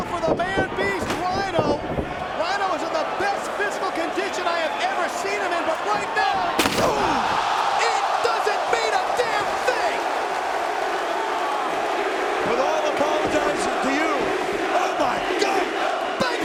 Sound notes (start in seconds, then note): 7.4 spectators exclaiming; 10.1 spectators cheering